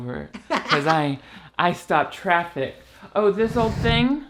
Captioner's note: laughs